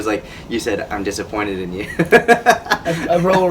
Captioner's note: laughs